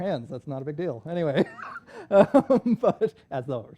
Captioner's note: laughs